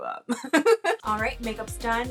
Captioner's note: lady laughing